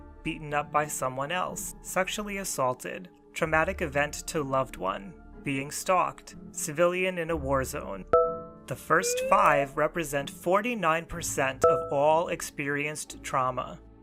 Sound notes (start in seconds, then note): 8.1 ding; 9.0 meter filling